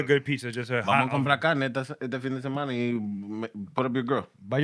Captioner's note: non-english Speech